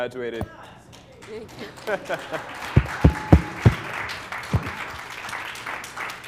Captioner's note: applause